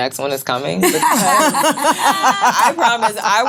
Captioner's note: laughing